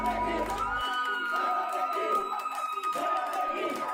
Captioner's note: screaming